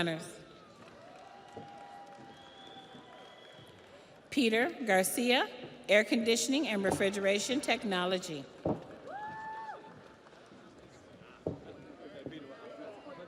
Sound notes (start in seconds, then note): 3.2 audience applauds; 3.2 audience cheers